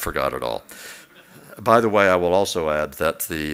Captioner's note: laughs